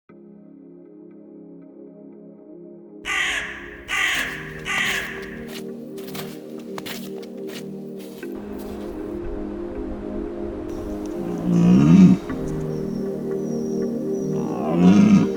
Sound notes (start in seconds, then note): 0.0 gentle music; 3.0 bird cawing; 5.5 footsteps crunching; 12.5 buck calling